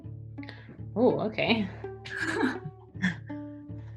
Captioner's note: laughs